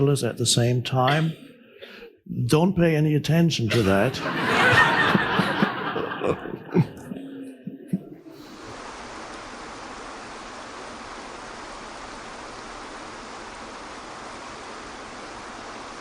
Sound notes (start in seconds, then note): 3.6 audience laughing; 8.6 water pouring